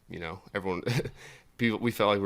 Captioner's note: chuckles